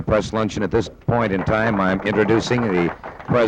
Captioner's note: audience clapping